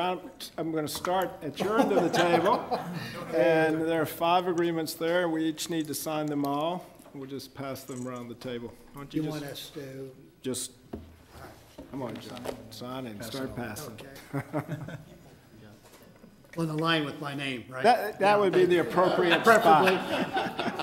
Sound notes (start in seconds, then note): 1.6 laughing